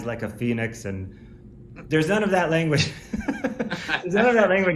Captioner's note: laughs